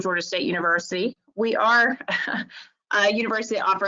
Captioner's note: chuckles